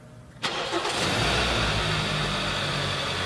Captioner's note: car Starting